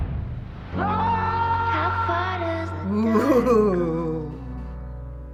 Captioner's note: Clay yells